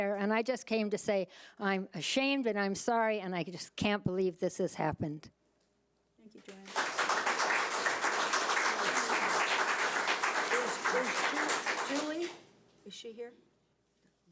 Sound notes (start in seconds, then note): 6.5 audience applauds